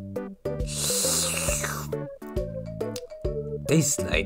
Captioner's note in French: slurpe